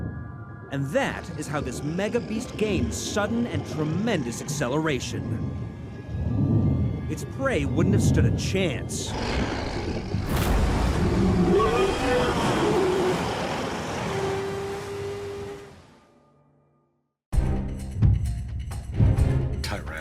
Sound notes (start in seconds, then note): 10.0 water splashing; 17.4 upbeat music